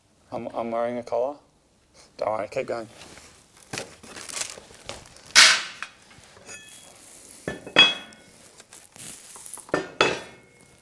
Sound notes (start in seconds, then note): 2.8 plastic rustling; 3.7 metallic clattering